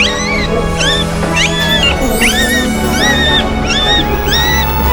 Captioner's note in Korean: 수술방에 울리는 새 생명들의 울음소리